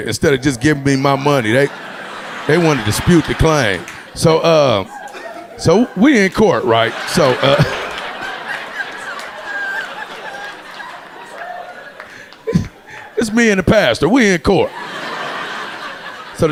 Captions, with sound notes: instead of just giving me my money. They want to dispute the claim. So, we in court, right? (audience laughing) So it's me and the pastor, we in court.